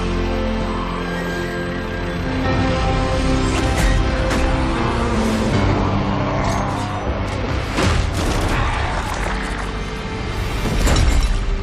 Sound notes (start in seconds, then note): 5.1 roaring